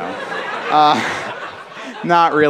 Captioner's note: laughter